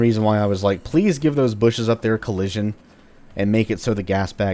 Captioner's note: none